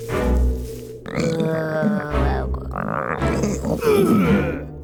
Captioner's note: stomach growling